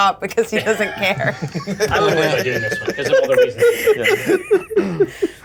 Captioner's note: laughter